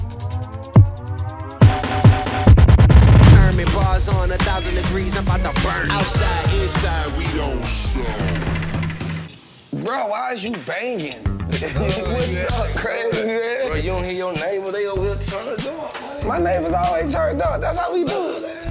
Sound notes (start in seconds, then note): 1.5 upbeat music; 8.5 bangs